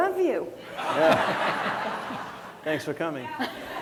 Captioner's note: laughter